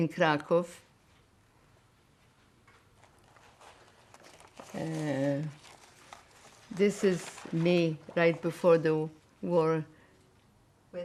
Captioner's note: pauses 6 seconds